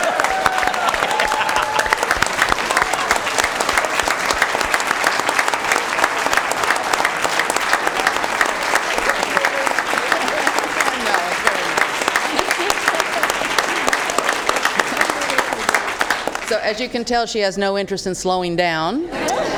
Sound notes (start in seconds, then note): 2.9 applause